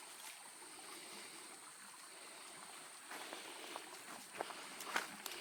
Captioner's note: creek flowing; breathing heavily